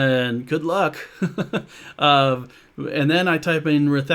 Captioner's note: laughs